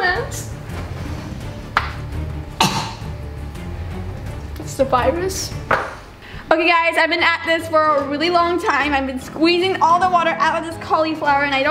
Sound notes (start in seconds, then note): 0.1 tense music; 2.3 retches